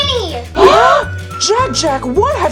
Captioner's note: everyone gasps